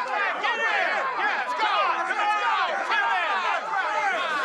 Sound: crowd cheering

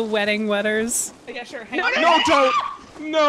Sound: screams

